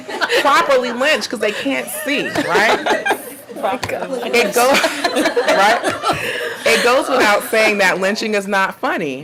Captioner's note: audience laughing